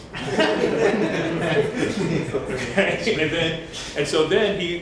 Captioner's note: laughter